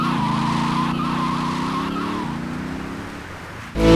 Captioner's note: tires screeching; upbeat music